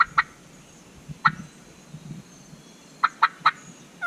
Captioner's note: turkey call